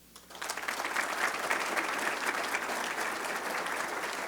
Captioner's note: audience clapping